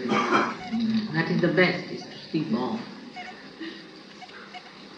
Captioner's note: more laughter and exchanges